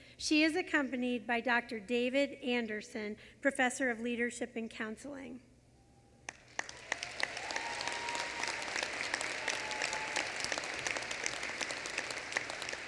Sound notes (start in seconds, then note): 6.2 applause